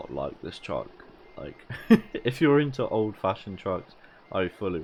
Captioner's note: laugh